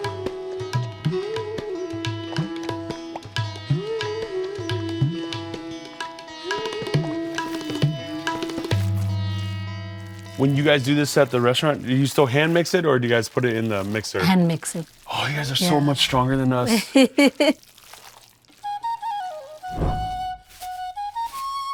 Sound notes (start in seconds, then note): 0.2 upbeat peaceful music; 8.4 food squishing; 16.6 laughs; 18.5 flute folk music